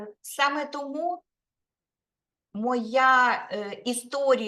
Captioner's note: speaking Ukrainian